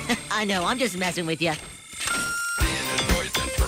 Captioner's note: giggles